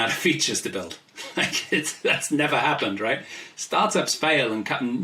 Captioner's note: laughs